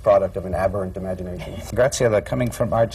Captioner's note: laughter